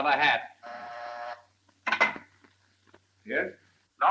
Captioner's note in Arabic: رنين الاتصال الداخلي